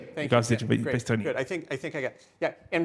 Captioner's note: speaking in foreign language